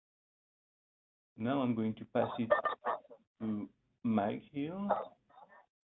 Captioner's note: audio blurs